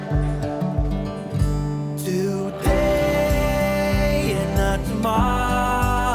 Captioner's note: laughs